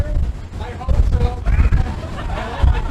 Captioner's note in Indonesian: tertawa